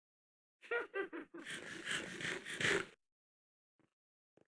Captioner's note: witch cackles